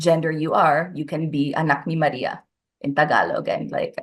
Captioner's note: speaks in foreign language